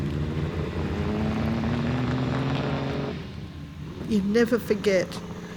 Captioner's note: engine revving